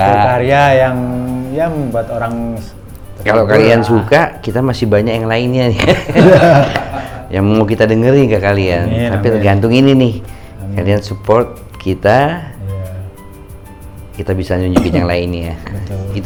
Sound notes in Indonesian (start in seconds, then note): 5.8 tertawa